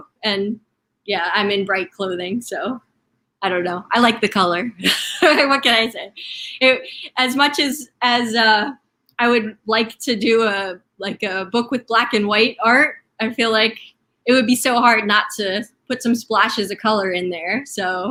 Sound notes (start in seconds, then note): 5.1 laughing